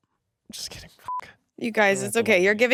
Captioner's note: beep